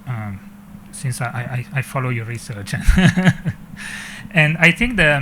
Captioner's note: chuckles